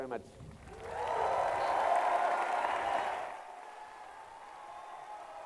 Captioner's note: applause